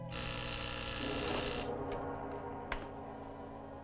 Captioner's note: door buzzing